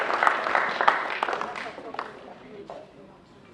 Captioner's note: applause